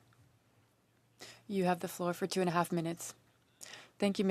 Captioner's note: speaking French